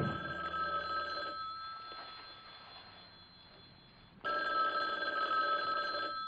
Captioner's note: telephone ringing